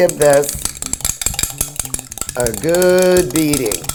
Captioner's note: clanging